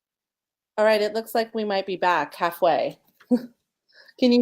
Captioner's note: laughing